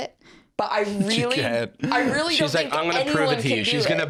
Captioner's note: laughs